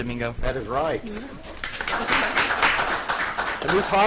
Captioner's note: audience applauds